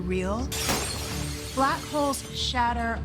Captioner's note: glass shatters